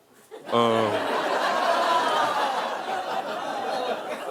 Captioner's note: audience laughing